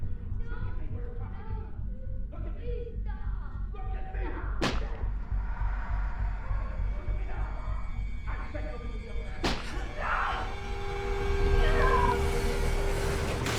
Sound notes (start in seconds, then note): 4.6 object smacking; 4.7 tense eerie music; 9.7 neighbor screams; 11.7 tense eerie music intensifies